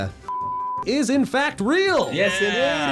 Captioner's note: beep